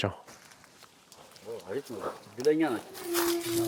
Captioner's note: horn blares